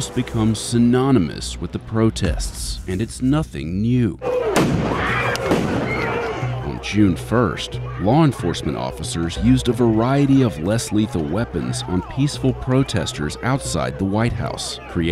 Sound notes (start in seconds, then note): 4.5 people screaming; 4.5 explosion